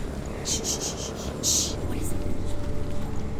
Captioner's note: distorted rhythmic sound; shushes